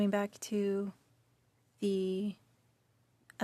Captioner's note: speaking French